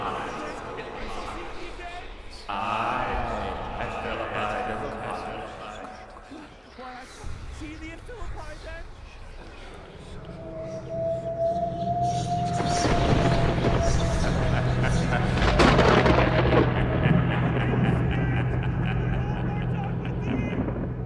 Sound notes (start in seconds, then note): 12.9 thunder racking; 14.9 distant laughter